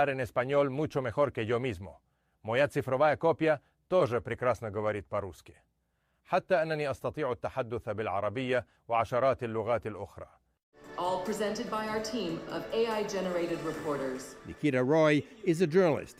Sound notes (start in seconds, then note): 3.3 speaking in spanish